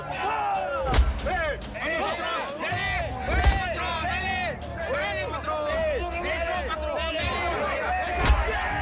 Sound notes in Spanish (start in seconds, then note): 0.0 Gritan al unísono; 0.8 Golpes; 3.3 Golpes; 4.6 Gritan al unísono; 8.2 Golpes